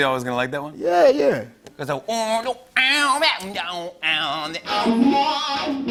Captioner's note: imitating guitar strumming